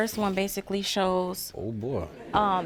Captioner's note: audience laughs